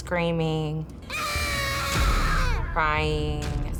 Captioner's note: screaming